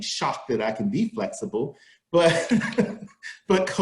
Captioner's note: laughs